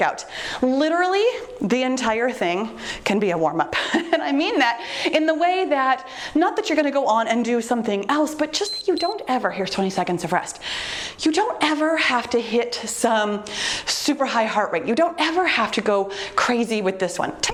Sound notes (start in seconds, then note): 8.5 timer beeps